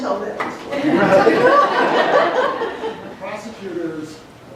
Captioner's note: laughter